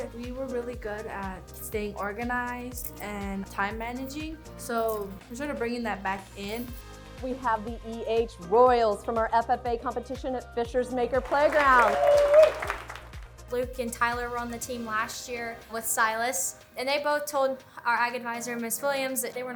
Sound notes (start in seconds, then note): 11.3 contestants cheering